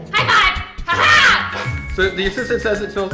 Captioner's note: laughs